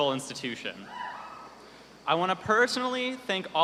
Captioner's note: cheers